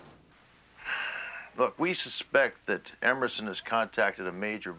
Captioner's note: sighs